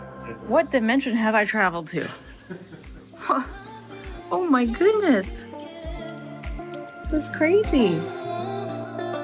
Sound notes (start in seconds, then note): 2.1 chuckles; 5.7 calm lounge music